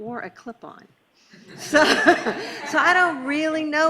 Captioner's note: laughing